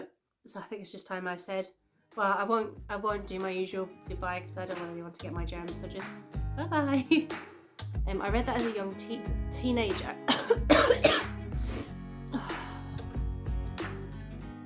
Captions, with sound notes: So, I think it's just time I said…well I won't do my usual goodbye, because I don't want anyone to get my germs, so just bye! And I read that as a young teenager *cough cough snot snot*